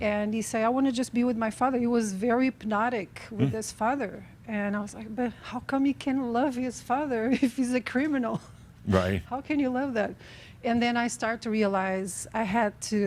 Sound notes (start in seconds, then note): 7.9 she chuckles